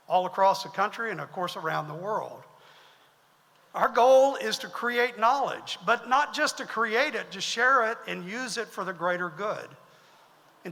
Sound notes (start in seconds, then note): none